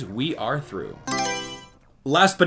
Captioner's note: Mario Selection Sound